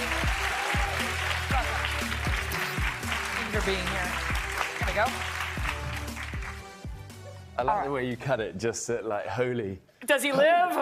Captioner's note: applause